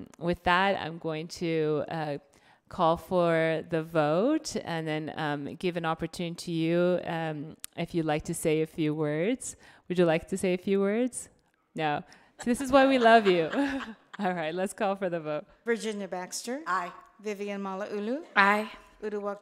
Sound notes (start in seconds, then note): 12.4 laughs; 12.4 audience laughs